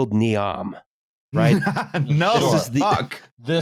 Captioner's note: slightly hysterical laughter